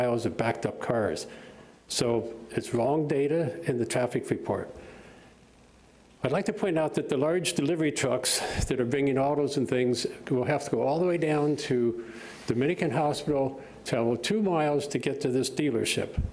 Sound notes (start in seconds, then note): none